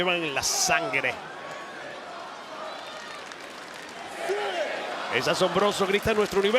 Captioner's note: applause